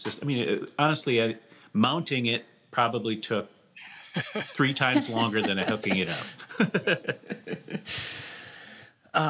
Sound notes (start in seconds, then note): 6.4 laughter